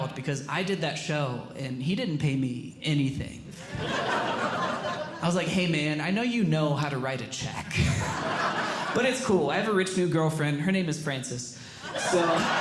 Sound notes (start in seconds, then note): 3.6 audience Laughing; 7.8 audience Laughing